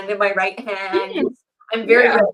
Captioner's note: laughs